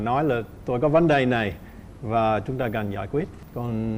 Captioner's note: none